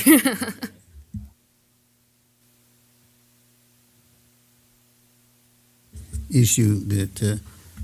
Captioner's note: laugh